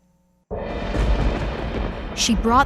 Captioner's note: thunder sounds